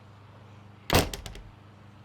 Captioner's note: door slams